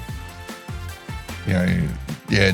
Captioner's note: laughing